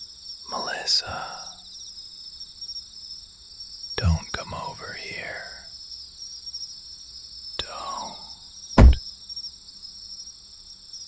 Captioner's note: quietly